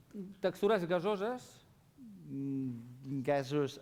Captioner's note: non-english speech